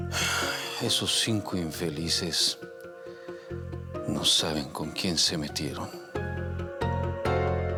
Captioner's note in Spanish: Suspiros